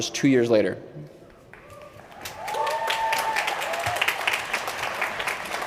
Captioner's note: applause